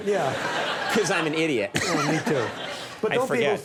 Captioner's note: laughs